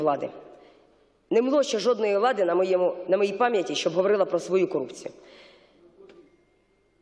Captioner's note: Ukrainian